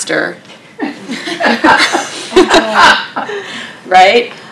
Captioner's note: laughter